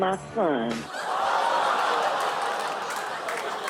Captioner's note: audience laughs